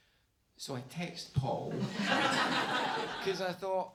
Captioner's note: audience laughs